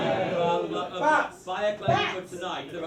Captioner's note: someone yells "bats"